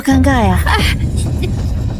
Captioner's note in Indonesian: Menghela napas